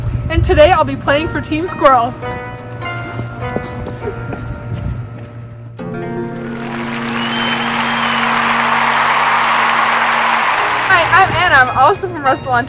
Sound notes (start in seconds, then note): 6.5 cheering